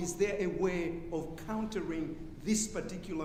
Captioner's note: none